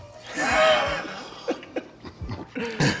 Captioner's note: Bron laughing; Scott laughing